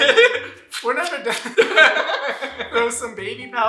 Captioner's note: laughter